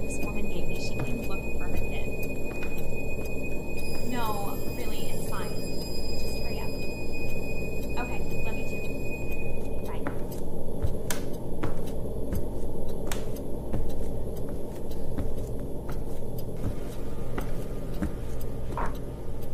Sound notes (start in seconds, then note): 9.6 clock ticks; 11.0 eerie atmospheric noise